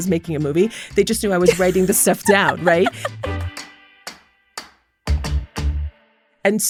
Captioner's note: laughter